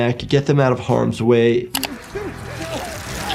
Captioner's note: mouse clicking; tense music; victim yelling